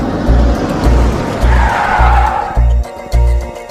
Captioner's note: brakes squeal